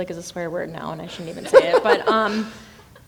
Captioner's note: laughing